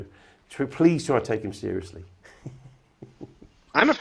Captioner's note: chuckles